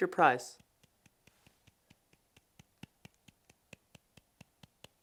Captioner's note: hands clapping